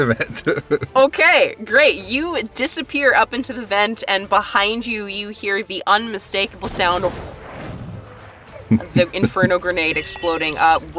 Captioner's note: chuckles; explosion